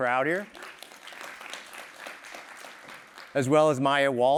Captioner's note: applause